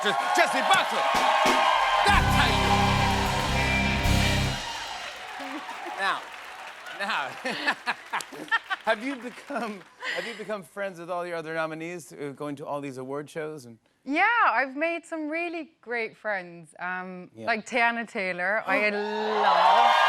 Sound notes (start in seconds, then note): 2.8 cheers and applause; 7.3 laughter